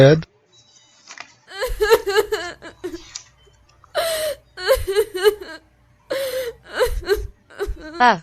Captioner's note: crying